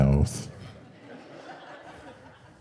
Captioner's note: audience Laughing